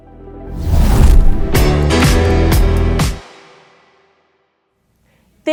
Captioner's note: whoosh